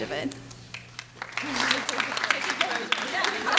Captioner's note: clapping